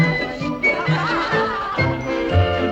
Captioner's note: laughter